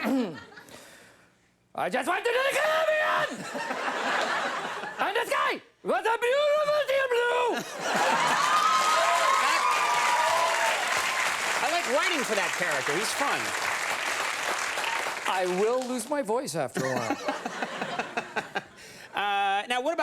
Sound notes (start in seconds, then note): 0.0 throat clears; 1.7 imitates German accent; 3.2 laughs; 3.3 audience laughs; 7.6 audience laughs and cheers; 16.8 laughs